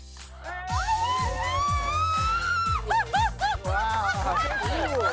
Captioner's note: screaming in excitement